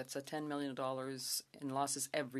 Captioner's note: speaking French